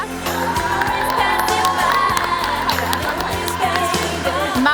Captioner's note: applause